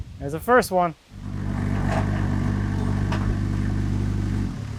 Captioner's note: engine revving